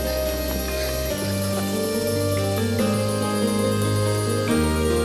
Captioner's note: Anthony chuckles